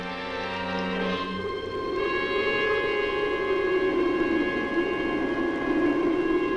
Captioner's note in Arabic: عواء الريح